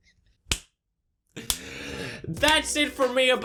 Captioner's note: wheezing laughter; deep inhale